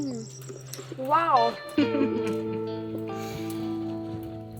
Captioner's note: laughing